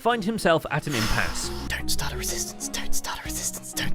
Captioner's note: whispering